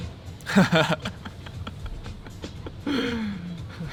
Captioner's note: laughs